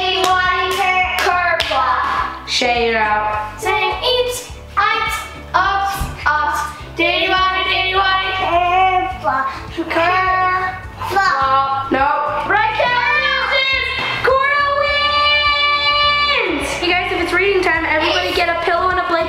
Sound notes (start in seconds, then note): 4.8 singing; 13.1 yelling